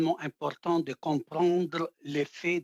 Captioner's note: speaking French